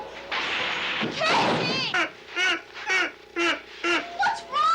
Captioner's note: Casey laughing